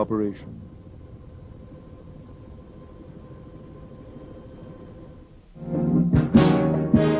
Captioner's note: helicopter blades whirring; upbeat music